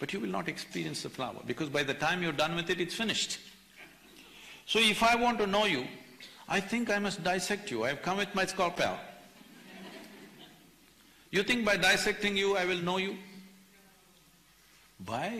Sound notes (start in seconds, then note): 9.3 few laugh